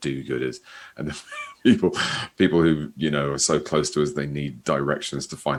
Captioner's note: laughs